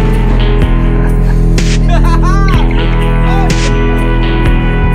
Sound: laugh

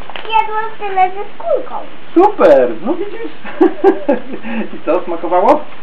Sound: laugh

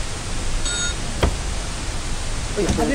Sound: french woman speaking; bell dings; french woman speaking

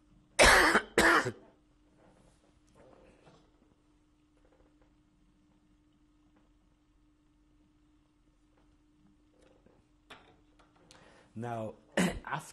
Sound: pauses for 10 seconds

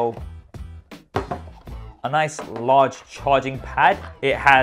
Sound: charging pad thuds

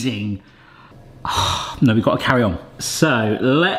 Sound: sighs

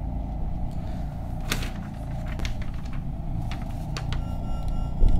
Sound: paper rustles; quiet audio static

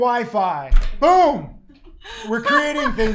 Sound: host laughing

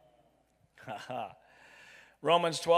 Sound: chuckles

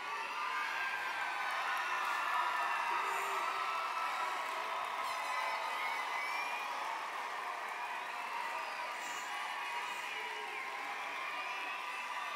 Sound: applause

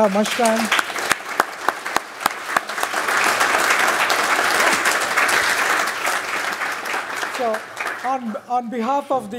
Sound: applause

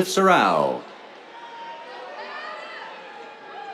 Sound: cheers

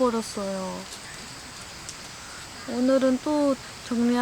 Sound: water drops fell and pooled

